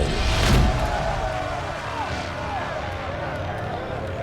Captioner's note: wailing